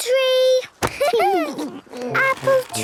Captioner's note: laughter